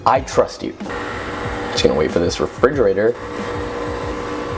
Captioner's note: humming in background